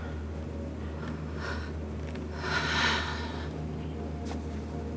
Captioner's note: sighs